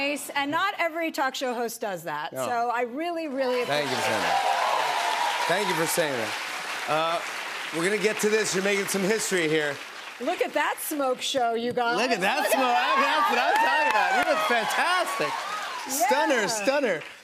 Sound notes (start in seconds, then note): 3.4 cheers and applause